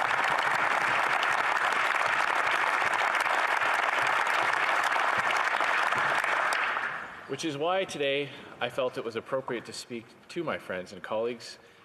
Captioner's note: some Applause